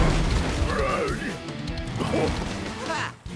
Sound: raging; coughing

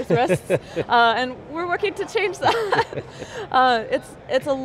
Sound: laughs

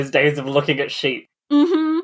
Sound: laughs; laughing

